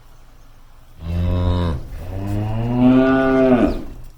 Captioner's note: cows moo